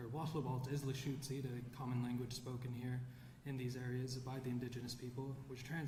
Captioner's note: none